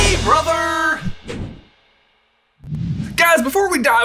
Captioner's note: air whooshing